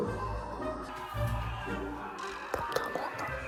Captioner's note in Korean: 잠시 후 tv 소리 들림